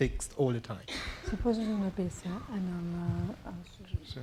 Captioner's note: speaking spanish